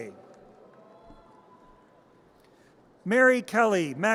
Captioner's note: audience cheers